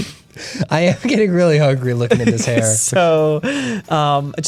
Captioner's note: pat